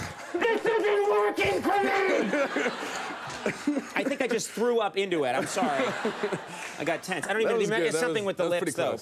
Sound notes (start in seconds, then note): 2.1 laughter